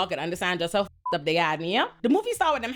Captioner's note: beep